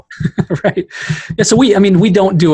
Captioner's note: laughing